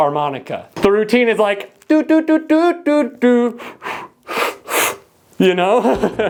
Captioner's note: blow blow inhale inhale